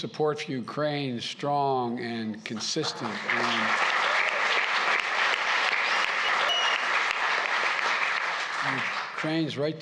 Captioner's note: applause